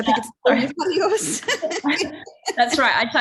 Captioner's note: both laughing